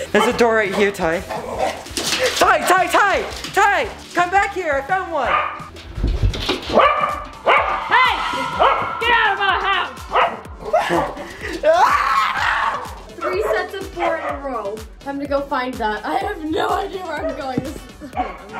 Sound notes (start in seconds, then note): 0.0 laughing; 6.7 dog barking; 11.6 screaming